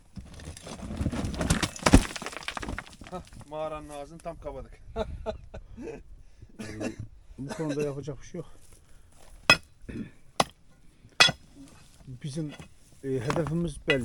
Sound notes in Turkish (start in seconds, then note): 4.9 kahkaha; 9.9 boğazını temizler